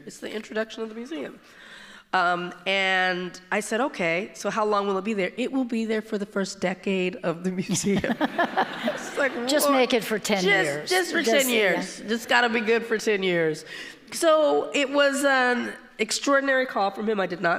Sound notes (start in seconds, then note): 7.8 all laughing